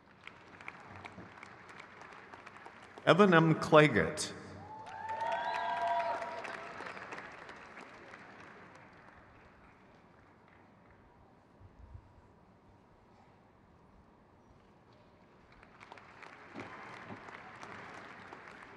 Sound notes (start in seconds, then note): 0.3 crowd cheers; 16.5 crowd cheers